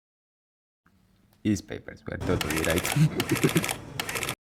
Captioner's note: laugh